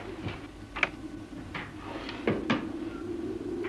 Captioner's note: door shuts